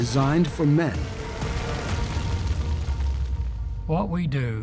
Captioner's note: flames crackling